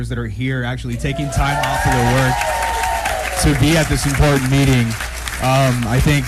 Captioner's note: applause